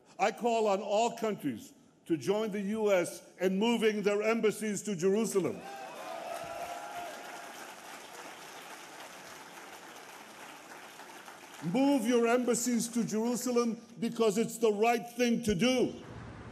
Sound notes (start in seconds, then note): 7.4 applause